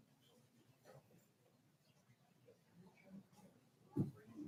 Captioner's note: people chattering